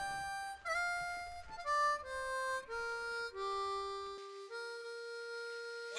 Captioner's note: stadium on radio; radio